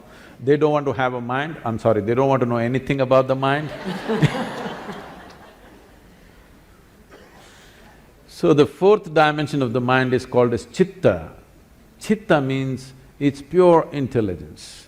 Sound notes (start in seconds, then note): 3.6 laughter